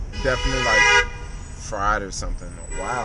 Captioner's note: horns honking